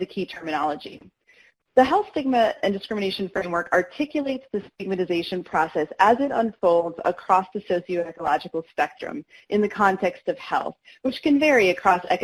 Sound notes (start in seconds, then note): none